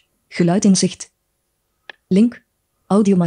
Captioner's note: speaks in foreign language